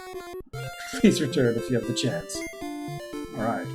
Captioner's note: chuckling